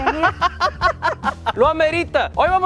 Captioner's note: laughs in Spanish